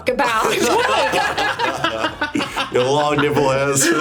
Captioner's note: group laughs